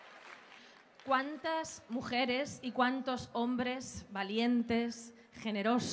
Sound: speaking Spanish

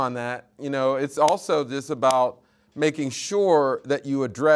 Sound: hand smacking

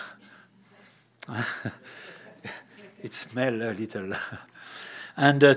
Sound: laughs

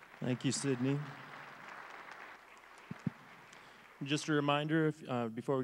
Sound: crowd applauds

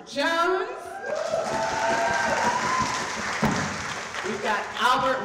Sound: audience cheering

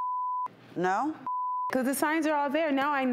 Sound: beep

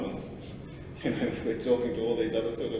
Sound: laughter

